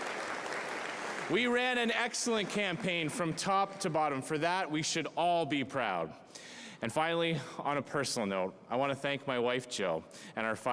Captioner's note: cheering